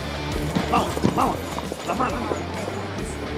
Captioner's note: in Italian